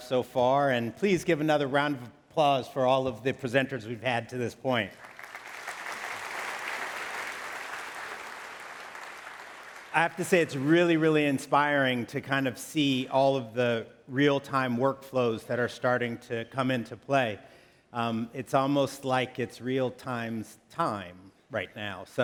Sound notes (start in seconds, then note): 4.9 applause